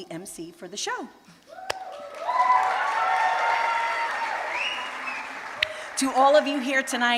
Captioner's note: cheers and applause